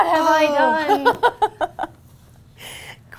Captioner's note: laughs